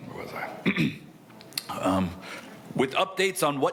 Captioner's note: clears throat